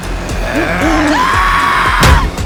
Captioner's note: suspenseful music; demon growls; Sarah screams; owl hoots; statue strikes